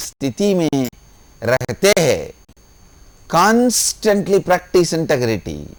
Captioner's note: hindi